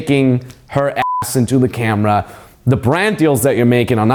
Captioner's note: beep